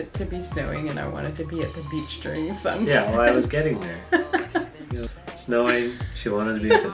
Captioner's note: laughing